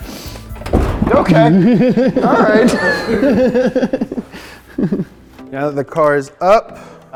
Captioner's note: crew laughing